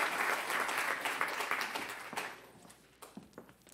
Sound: applause

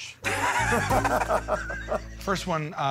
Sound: Joe and Q laugh

